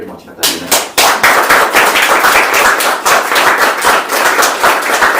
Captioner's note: applause